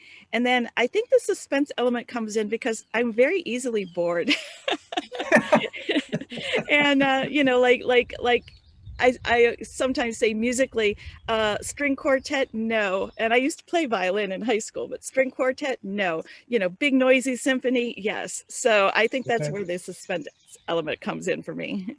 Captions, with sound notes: And then, I think the suspense element comes in because I'm very easily bored. [brief laughter]. And, you know, like I sometimes say, musically, string quartet. No. And I used to play violin in high school, but string quartet, no. You know, big noisy symphony. Yes. So I think that's where the suspense element comes in for me.